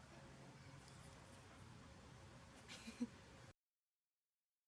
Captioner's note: laughing